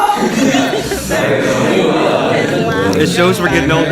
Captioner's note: haha